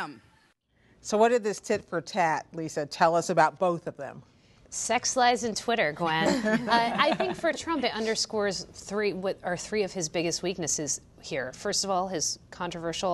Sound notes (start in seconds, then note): 6.2 laughter